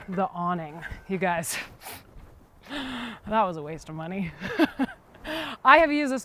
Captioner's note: chuckles